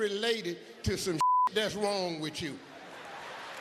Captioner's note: beep